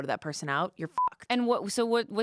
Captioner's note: beep